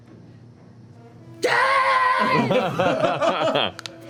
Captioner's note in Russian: кричит; смех